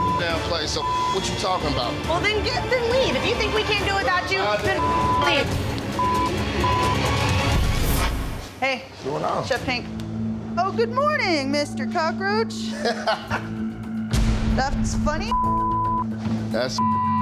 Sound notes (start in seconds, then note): 0.8 beep; 4.7 beep; 12.6 laughs; 15.2 beep